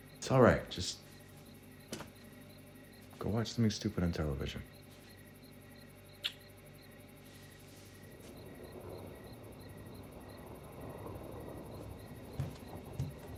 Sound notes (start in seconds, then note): 8.3 thunder rumbling; 11.6 crickets chirping